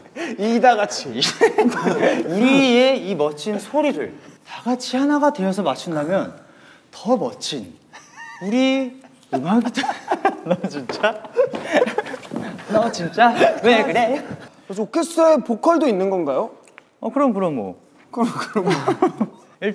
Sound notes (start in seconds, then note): 1.2 laughter; 7.9 laughter